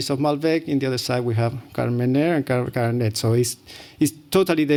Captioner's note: non-english